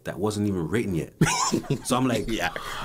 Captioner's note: laughs in surprise